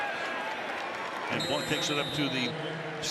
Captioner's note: whistle